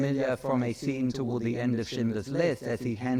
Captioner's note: speaks in foreign language